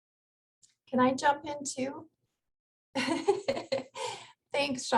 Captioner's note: laughs